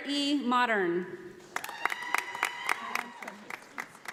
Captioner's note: audience applauding